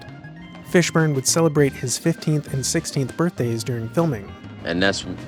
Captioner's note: actors Talking